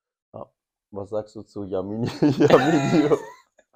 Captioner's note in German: gelächter